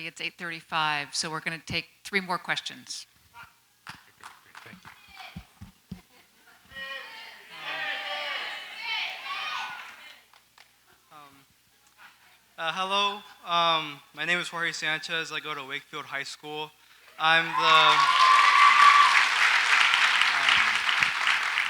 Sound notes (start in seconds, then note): 6.7 crowd members yelling; 17.2 crowd applauds and cheers